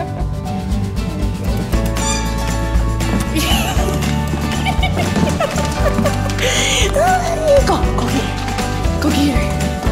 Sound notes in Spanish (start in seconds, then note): 1.8 Risas; 2.0 Juguete que chirría; 4.3 Risas